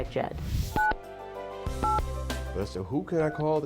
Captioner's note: phone beeps